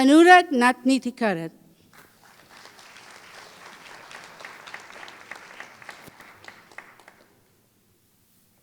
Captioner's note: applause